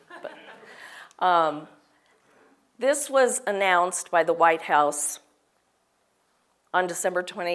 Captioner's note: laugh